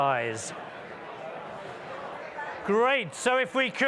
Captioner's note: indistinct audience chattering